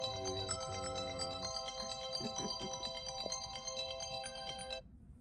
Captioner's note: alarm